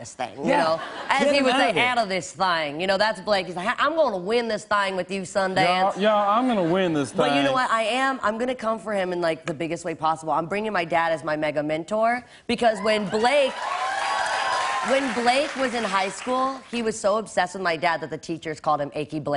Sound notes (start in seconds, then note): 6.2 normal voice; 12.8 cheers and applause